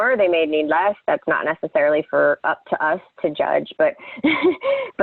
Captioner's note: laughs